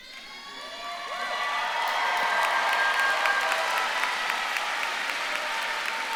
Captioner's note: audience claps and cheers